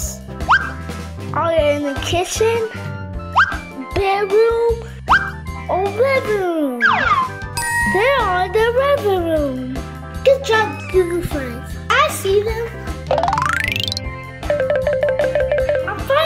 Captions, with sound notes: (upbeat music) Are they in the kitchen, bedroom, or living room? (bell dinging) They're in the living room. Good job Goo Goo friends. I see them. (upbeat music) (xylophone plinking)